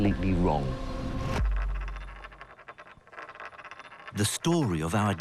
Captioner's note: coin rattling; voiceover